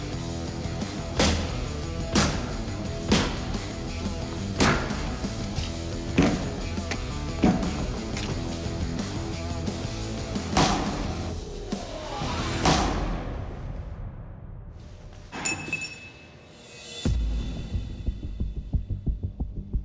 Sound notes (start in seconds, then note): 15.3 metallic clink; 16.8 tense music